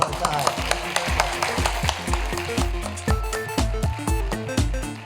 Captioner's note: applause; closing music